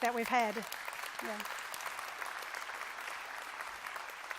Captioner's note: applause